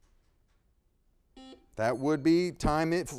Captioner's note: buzzer beeping